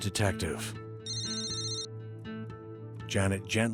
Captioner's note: phone rings